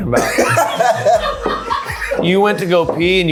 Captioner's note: everyone laughing